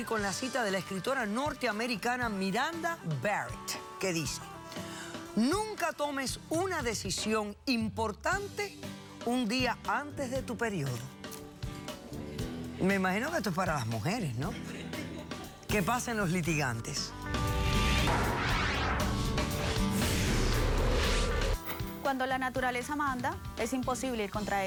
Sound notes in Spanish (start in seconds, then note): 14.5 risas